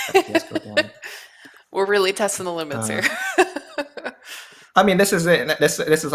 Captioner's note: laughs